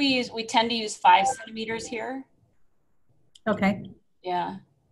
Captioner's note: computer beeps